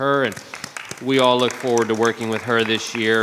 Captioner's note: audience clapping